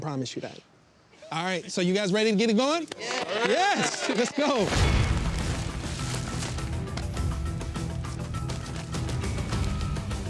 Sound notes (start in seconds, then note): 3.3 clapping; 4.8 dramatic music